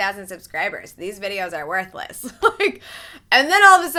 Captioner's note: laughs